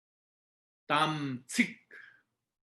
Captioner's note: tibetan